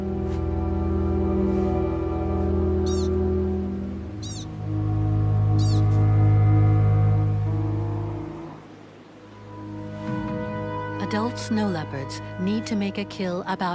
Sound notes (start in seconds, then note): 2.8 animal squeaking; 3.0 dramatic music; 9.1 dramatic music